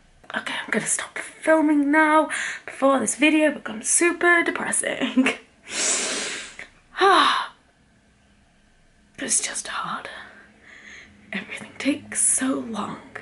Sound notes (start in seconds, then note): 5.6 exhaling deeply